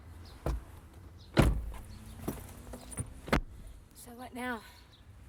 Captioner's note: doors shut